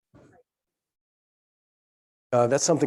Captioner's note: speaking faintly